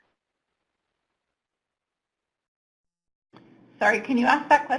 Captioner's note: silence